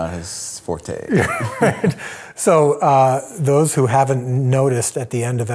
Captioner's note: laughs